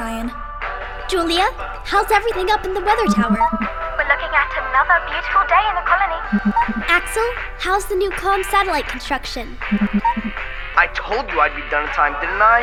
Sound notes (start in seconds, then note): none